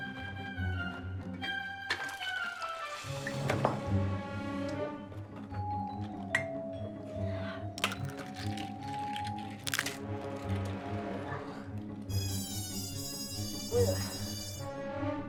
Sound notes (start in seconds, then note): 7.7 egg crunching; 8.8 Jimmy groaning